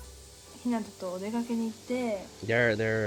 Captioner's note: speaking in foreign language